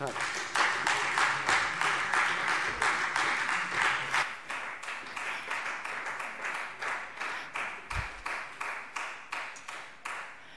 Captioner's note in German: Beifall Freie Demokraten